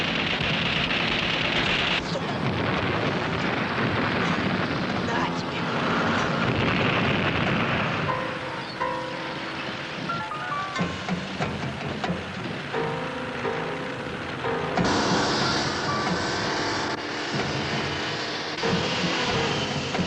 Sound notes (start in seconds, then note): 0.3 guns firing; 6.8 explosion booming; 14.9 tank roaring